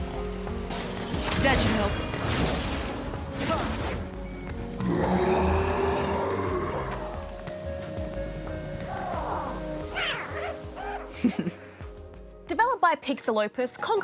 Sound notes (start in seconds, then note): 4.8 roars; 9.5 squeaks; 10.8 chuckles